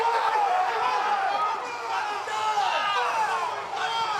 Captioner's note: group yelling